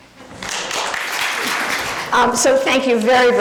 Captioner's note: clapping